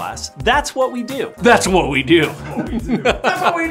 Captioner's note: laughs